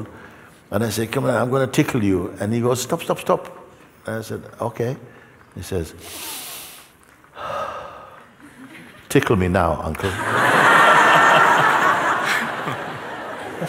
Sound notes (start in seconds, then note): 6.0 inhales then exhales; 10.0 laughter